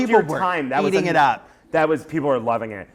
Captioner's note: voiceover